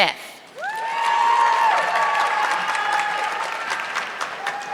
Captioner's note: audience clapping